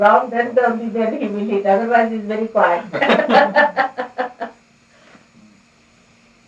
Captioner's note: laughter